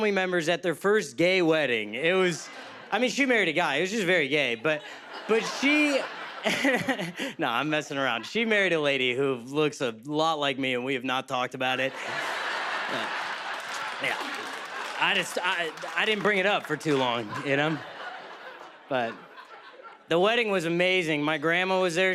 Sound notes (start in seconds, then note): 4.3 chuckles